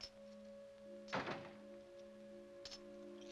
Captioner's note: door closes; coins clink